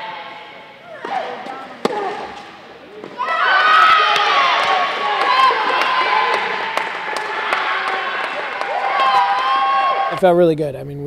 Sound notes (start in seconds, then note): 3.1 cheering